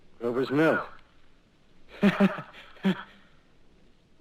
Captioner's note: laughing nervously